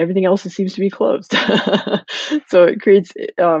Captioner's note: laughing